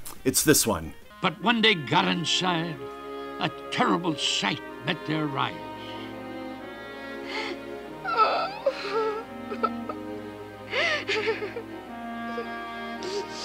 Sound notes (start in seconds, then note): 7.8 Karen crying